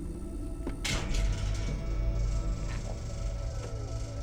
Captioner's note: freezer starts